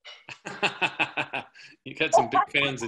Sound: laughing

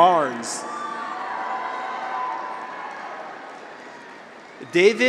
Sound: graduates cheer

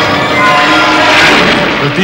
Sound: thundering

